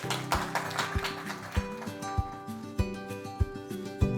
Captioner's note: audience applauds